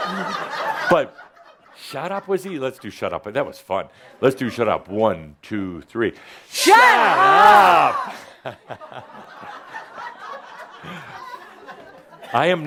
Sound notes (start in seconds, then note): 0.0 laughter; 8.1 laughter